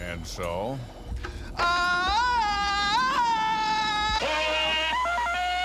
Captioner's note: imitates tarzan yell; tarzan yell